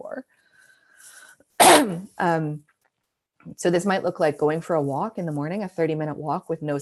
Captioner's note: coughing